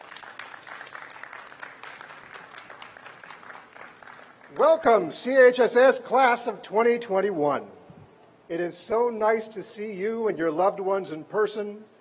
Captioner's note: applause